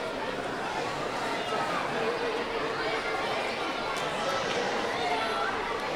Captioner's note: audience chattering continues